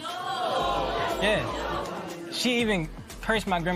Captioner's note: spectators murmur